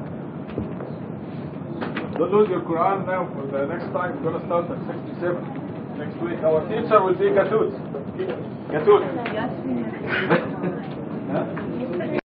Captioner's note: gülüşme ve konuşmalar